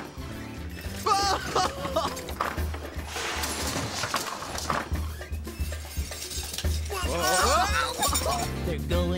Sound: general Commotion

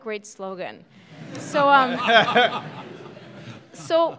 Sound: laughing

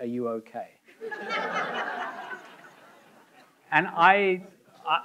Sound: audience laughing

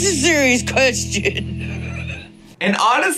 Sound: laughs

